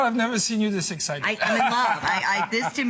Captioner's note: laughter